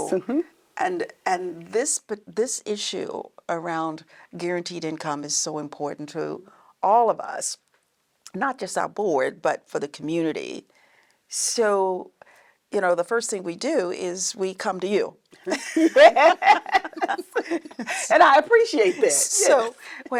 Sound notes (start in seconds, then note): 15.4 all laughing